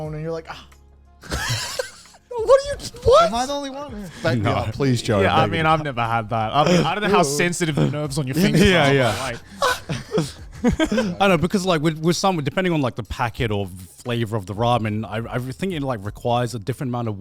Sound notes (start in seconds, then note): 1.2 laughs; 9.0 gasps